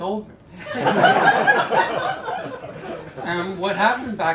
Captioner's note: laughter